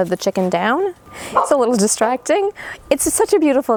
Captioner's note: dog barking